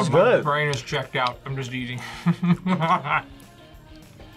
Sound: laughs

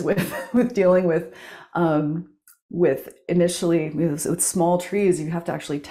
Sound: chuckles

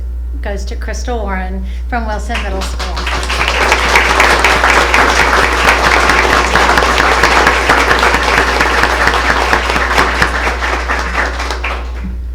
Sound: applause

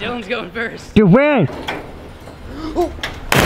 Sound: weird voice

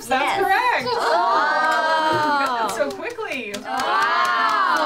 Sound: various exclaim

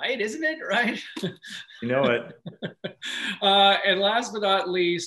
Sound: laughs

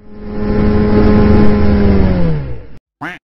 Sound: plane engine roaring; duck quacking

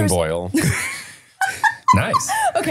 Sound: laughing

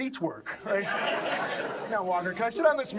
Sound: audience laughs

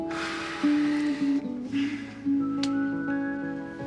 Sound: sighing

